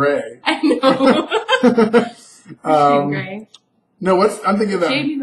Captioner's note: both laugh